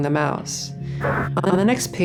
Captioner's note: glitch noises